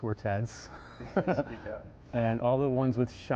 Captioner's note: laughing